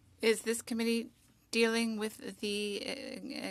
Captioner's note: speaking French